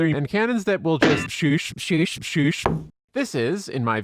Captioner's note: thud